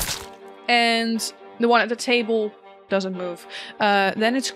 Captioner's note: sound of a piercing impact on flesh; dice clacks